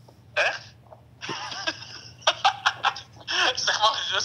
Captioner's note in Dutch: bruno lacht